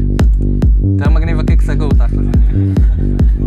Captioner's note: laughs